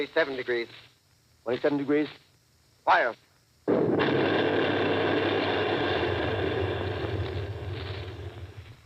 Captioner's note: boom of heavy gun . . . pause